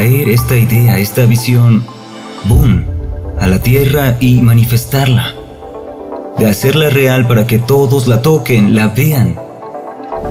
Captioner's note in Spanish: boom